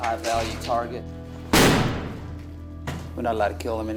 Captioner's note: another bang of foot on door